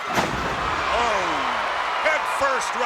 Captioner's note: crowd cheers